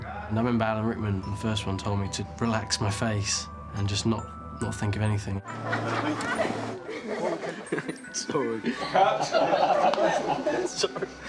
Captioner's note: laughter